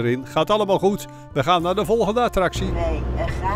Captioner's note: voiceover